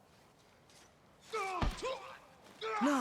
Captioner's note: screams